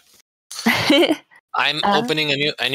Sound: laughter

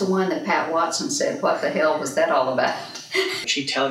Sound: laughs

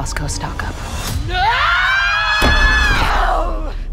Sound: Helena and Cornelia screaming

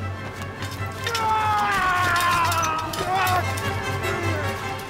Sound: Jess yells; dramatic music

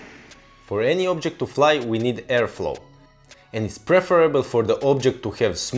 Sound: wind

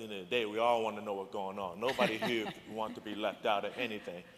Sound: laughter

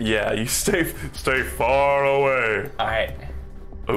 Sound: deep voice

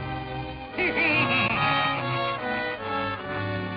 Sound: evil laugh

